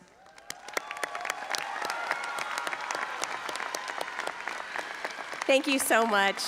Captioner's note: audience applauding and cheering